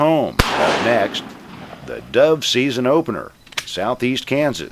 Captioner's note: bang